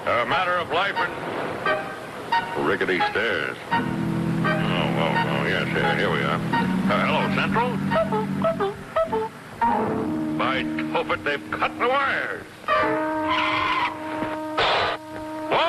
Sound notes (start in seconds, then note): 8.3 cuckoo clock chirping; 12.8 suspenseful music